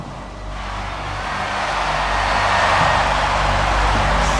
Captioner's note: crowd cheering